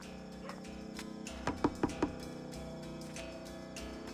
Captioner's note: knocking